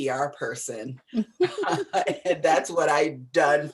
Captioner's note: laughter